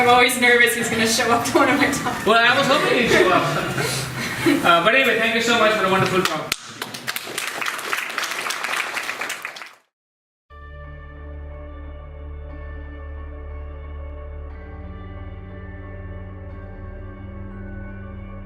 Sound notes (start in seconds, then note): 6.0 audience applauding; 10.5 inspirational music